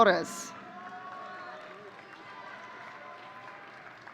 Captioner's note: audience cheering